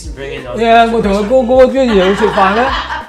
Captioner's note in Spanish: Risas